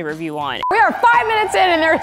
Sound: beep

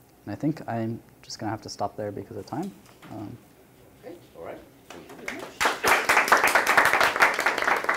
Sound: applause

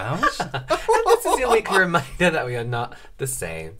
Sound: fake Laughing; now Fake Laughing

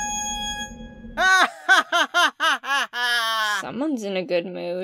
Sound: old pipe organ jingle; celestia laughs

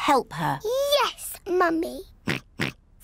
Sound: oinks

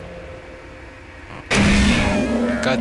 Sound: gunshot

